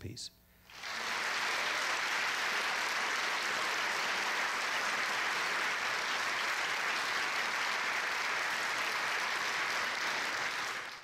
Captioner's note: audience applause